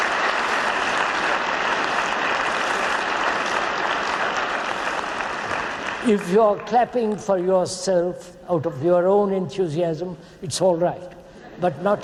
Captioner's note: clapping